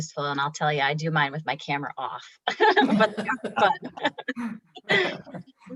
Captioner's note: all laughs